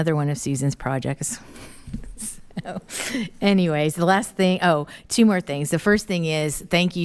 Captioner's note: laughing